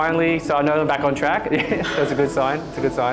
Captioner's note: chuckles